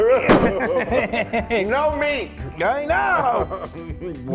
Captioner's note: laugh